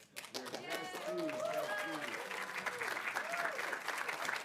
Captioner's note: audience applauding